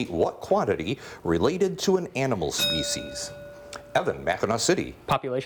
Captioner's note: bell rings